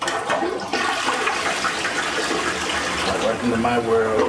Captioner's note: toilet flushes